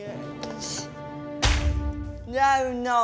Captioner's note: thwack